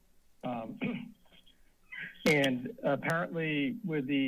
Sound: coughs

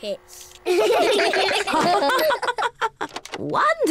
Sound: all laugh

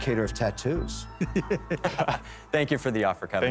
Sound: laughs

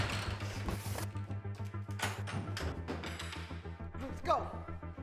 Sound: object shuffling

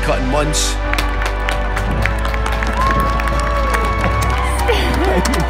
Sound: applause

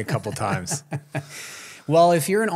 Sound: laughs

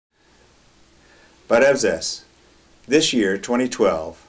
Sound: armenian

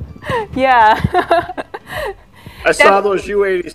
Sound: laughs

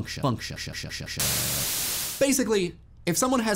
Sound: static

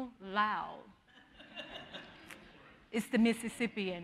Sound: audience laughing

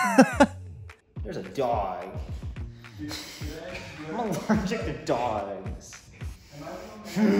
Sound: laughs; hmph

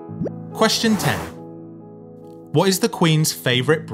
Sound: number pops and whooshes

